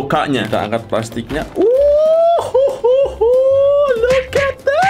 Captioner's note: cheering